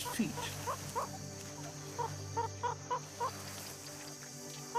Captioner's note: cheeping